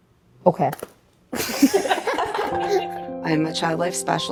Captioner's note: laughter